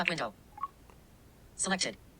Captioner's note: popping sound